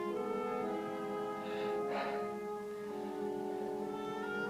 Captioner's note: panting